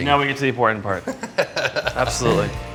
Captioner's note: laughing